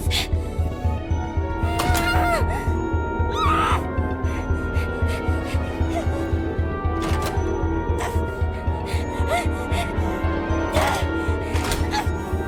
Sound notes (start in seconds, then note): 1.7 groans, screams through teeth